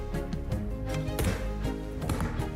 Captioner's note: lid thuds; locks clicking